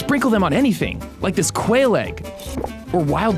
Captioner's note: slurping